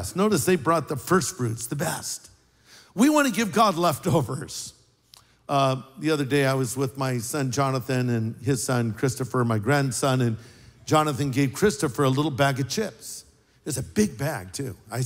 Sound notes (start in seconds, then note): none